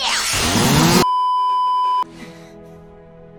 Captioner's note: beeeeeeeeeeeep